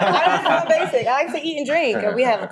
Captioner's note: people laughing